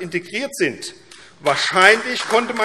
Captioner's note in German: Beifall AfD